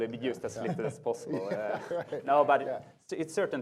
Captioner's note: laughing